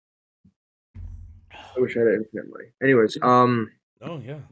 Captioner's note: sighs